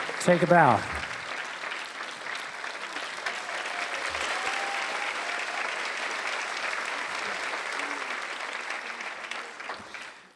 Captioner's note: applause